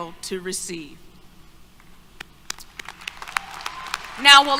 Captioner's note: applause, Cheers